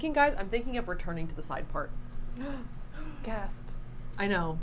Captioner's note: gasps